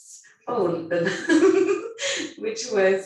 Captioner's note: laughing